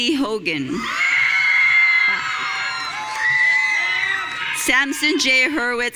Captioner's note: audience cheering